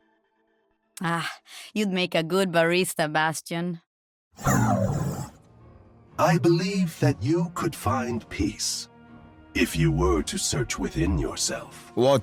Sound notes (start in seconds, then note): 3.9 robotic noises